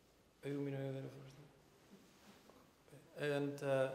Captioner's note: speaks under his breath